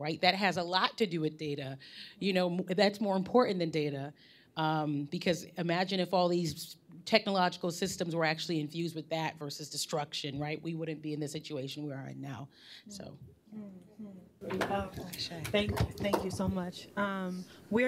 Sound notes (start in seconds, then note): none